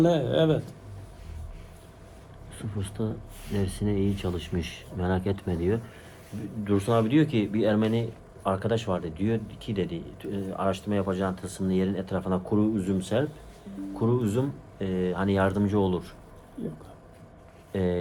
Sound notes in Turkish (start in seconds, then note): none